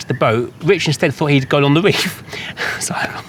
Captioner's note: laughs